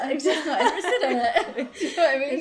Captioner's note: both laugh